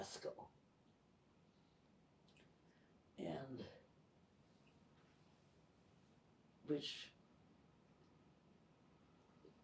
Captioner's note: pauses 6 seconds